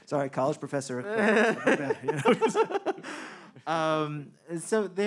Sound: man laughing

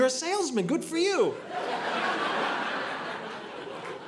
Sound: audience laughing

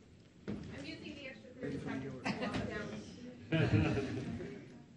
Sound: speaking faintly; laughs

